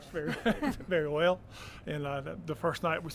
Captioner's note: laughter